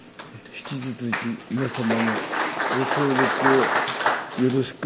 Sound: speaking in foreign language; audience applauding

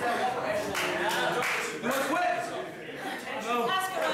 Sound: clapping

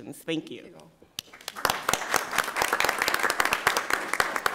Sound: applause

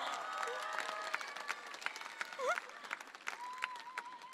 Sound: audience cheering

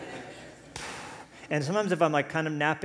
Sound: puffs

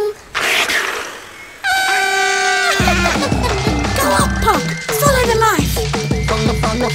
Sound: A badger growls; giggles

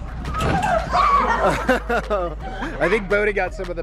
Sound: screaming; laughing

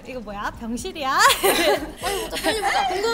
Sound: laughing

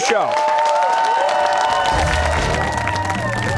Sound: cheers and applause

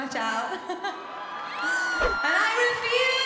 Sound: laughter

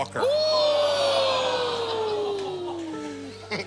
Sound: audience groans; chuckles

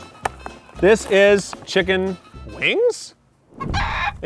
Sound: chicken clucks. again

